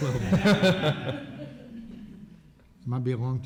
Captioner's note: laughter